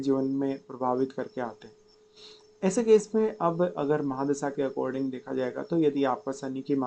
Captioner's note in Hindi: नाक से की जाने वाली आवाज़